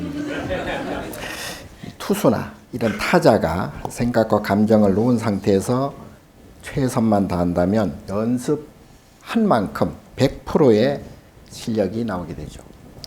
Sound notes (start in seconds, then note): 0.0 audience laughing; 0.2 speaking Korean